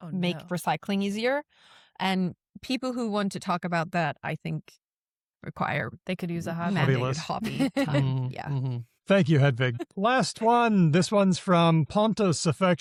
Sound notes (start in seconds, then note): 6.7 laughs